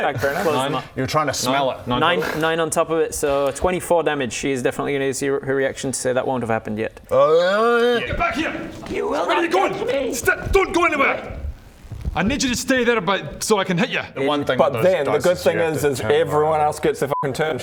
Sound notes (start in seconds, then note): 7.1 urghgrrrgrhghghh